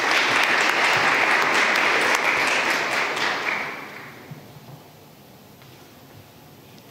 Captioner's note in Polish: oklaski